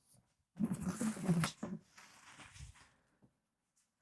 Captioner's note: silence